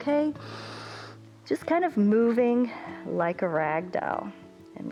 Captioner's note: inhales